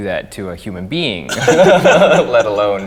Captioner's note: both men laugh